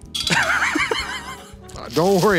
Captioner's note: laughing